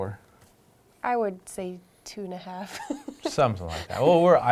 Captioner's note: laughing